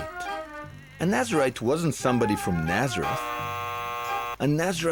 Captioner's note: buzzing